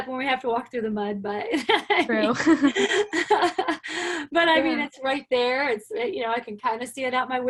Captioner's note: laughter